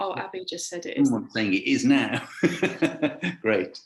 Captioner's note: laughing